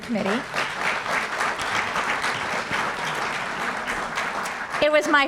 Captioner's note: applause